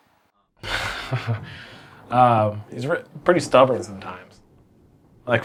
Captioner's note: chuckles